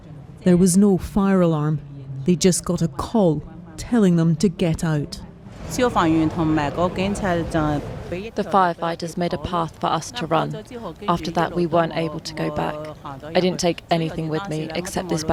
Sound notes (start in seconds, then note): 8.8 through translator